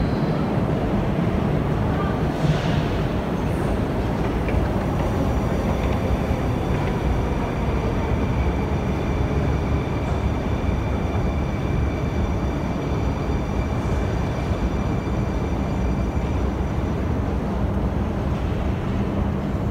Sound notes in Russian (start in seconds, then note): 4.7 прибытие поезда на станцию